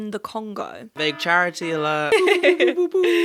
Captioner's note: alarm blaring; giggling; imitating sirens